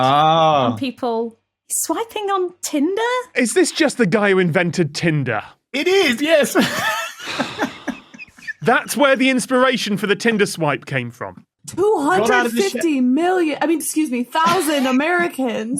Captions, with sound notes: Oh. On people. Swiping on Tinder? Is this just the guy who invented Tinder? It is, yes. (wheezes) That's where the inspiration for the Tinder swipe came from? 250 million— I mean, excuse me— thousand Americans